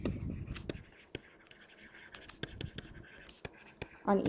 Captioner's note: pen scratching